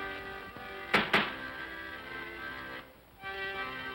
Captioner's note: bangs on desk; accordion plays